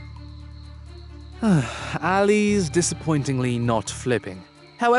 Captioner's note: sighs